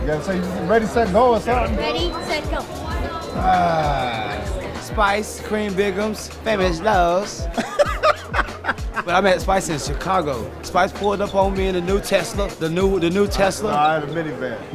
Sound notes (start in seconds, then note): 2.8 grunting; 7.5 laughing